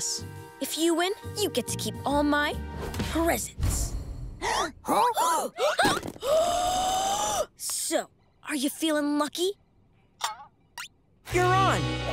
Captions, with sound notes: If you win, you get to keep all my... presents. [gasping] So, are you feeling lucky? You're on.